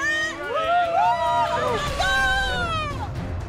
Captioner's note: cheering